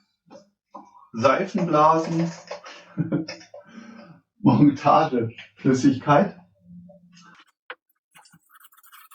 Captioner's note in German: lacht